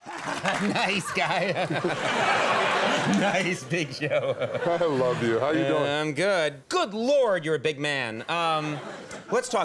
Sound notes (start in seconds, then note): 0.0 laughs; 2.1 audience laughs; 4.3 laughs; 8.5 audience laughs